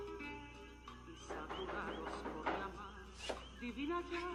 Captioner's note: hard knocking